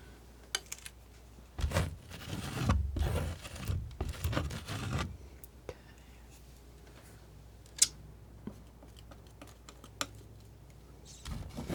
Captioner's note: scratching